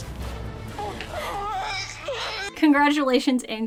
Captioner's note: baby crying